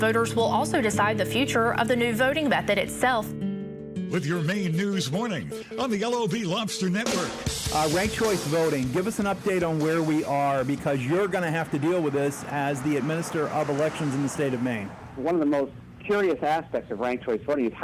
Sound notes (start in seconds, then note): 4.1 radio